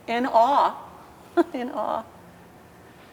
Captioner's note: chuckles